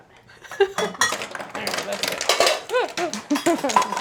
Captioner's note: ice falling into the bowl